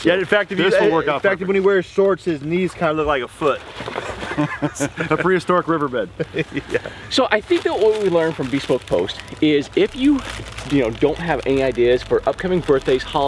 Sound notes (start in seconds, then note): 4.1 chuckling